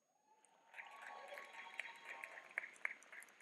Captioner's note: clapping